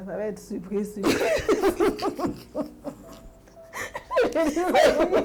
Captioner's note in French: rires